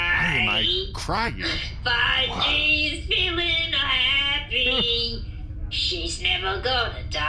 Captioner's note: Bleez sighs, impressed